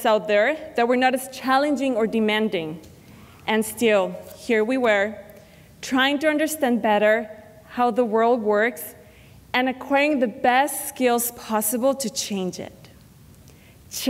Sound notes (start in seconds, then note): none